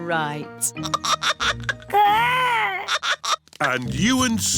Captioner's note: giggling